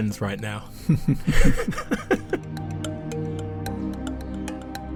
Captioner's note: voiceover